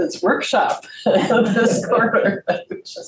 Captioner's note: group laughs